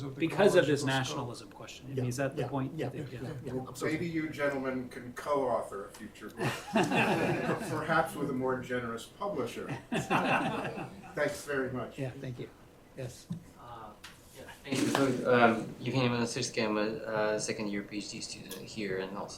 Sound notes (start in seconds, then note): 6.4 laughs